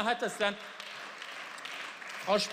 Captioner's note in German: Beifall